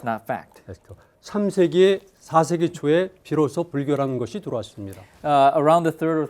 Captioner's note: speaking in Korean